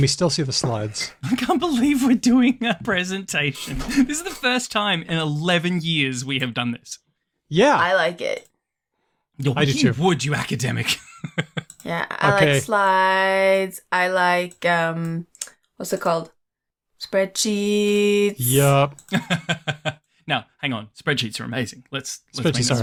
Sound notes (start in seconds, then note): 10.8 laughs; 19.0 laughs